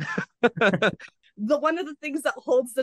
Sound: laughter

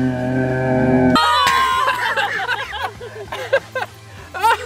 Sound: laughing

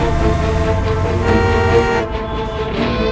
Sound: horn honking

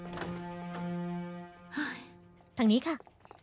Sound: door opening

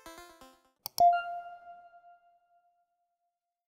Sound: logo dings

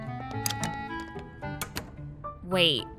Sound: door opens; door closes

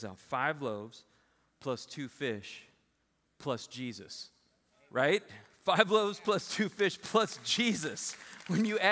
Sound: applause

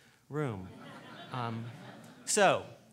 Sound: laughing

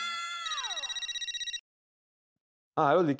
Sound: phone ringing

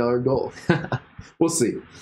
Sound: laughing

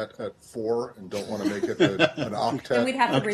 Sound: laughter

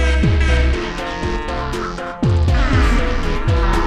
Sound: shitting music continues; two short air horn toots; cows moo in the background; a very low pitched air horn toots; cows moo in the background; shitting music continues; cows moo in the background; shitting music continues; cows moo in the background; shitting music continues

